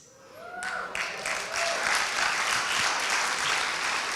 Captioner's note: applauding